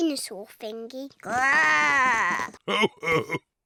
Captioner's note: oinks; growls; chuckles